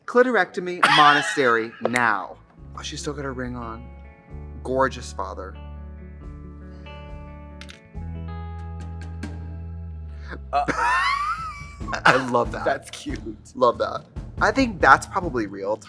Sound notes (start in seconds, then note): 0.8 Katya laughing; 10.6 drag queens laugh